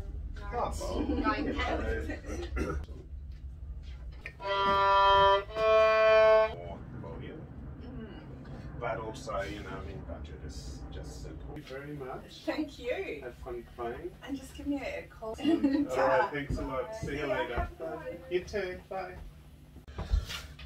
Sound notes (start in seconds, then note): 4.2 violin sound; 7.9 indistinct conversation